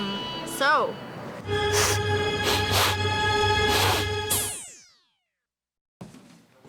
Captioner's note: worrying music; sniffing